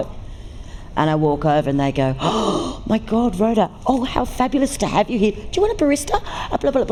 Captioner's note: gasp